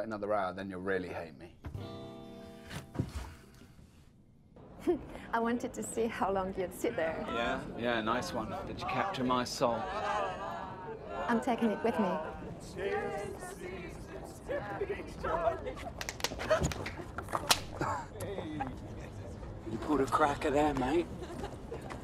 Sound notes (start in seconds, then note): 16.4 laughter; 17.2 popping